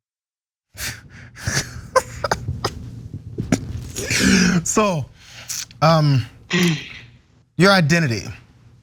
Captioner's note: laugh